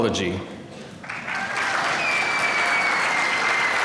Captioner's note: applause